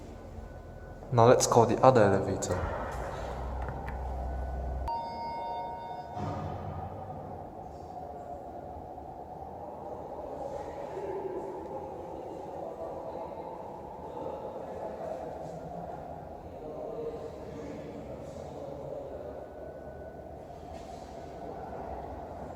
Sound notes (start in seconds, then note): 4.8 chime; 7.5 wind howling noises